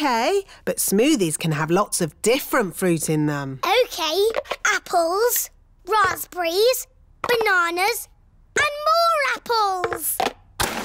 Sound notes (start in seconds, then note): none